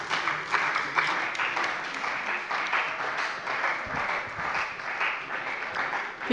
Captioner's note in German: Beifall bei dem BÜNDNIS 90/DIE GRÜNEN und der CDU